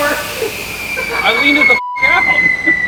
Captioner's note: beeps